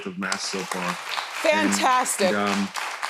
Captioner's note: audience applauding